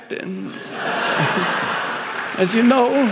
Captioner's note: audience laughing